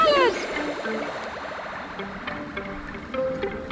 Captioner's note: foreign language